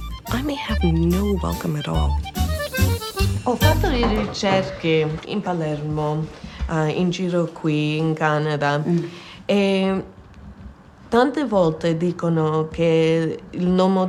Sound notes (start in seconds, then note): 2.3 upbeat music continues; 3.8 speaks in foreign language